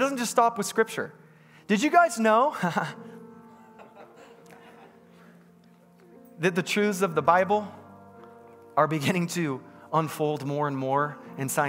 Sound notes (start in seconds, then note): 3.5 congregants laughs; 3.7 laughs